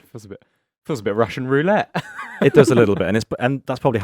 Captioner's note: laughs